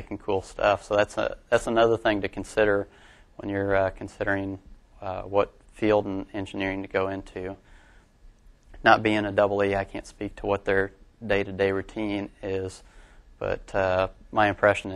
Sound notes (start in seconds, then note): none